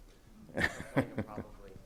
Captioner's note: laughs